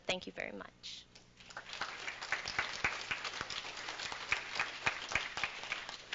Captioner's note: applause